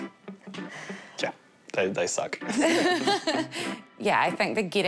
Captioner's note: both laugh